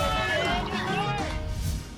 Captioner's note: cheers and applause